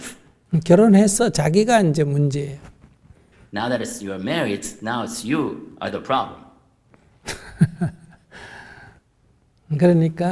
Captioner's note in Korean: 스님 웃음